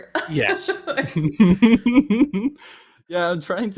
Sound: laughter

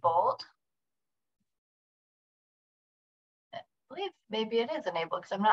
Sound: silence

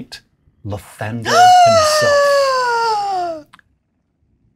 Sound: shocked inhale

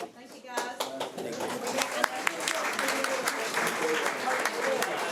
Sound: audience applauding

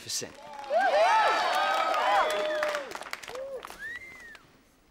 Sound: cheering and applause

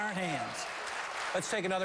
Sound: applause

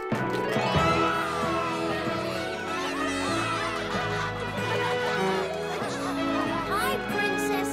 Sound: cheering and applauding

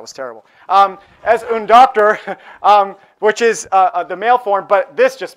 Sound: speaking spanish

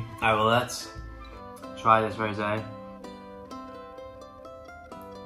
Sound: groans

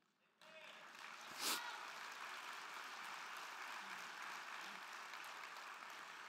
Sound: crowd clapping; crowd cheering

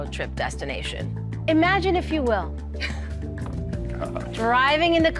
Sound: laughing

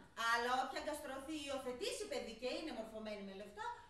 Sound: none

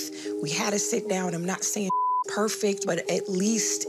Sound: beep

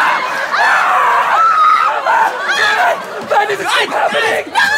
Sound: screams; both shrieking

